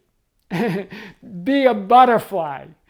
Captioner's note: laughs